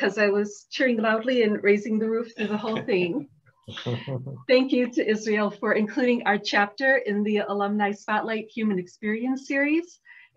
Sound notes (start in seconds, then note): 2.4 laughter